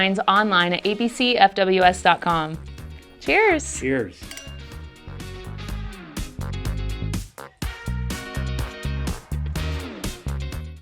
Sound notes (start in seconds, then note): 4.2 glasses tinkling; 5.5 upbeat music